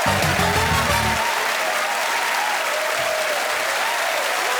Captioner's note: cheers and applause